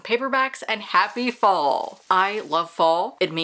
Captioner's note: leaves falling and crunching